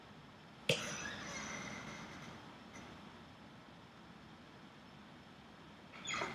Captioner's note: squeaking chair